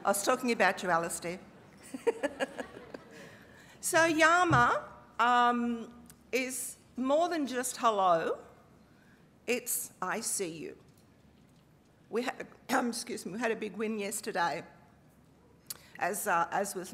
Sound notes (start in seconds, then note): 2.1 laughing; 4.4 speaking aboriginal language